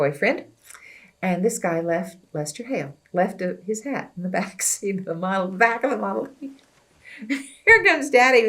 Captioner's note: laughs